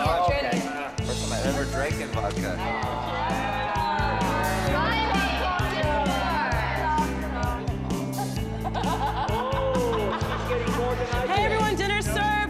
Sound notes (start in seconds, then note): 7.9 laughs